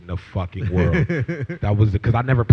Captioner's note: laughter